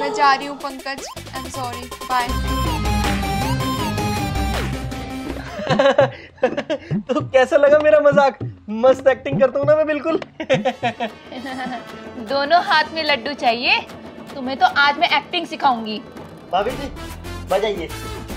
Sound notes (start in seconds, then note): 9.2 laughing